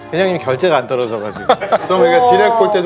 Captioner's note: laughs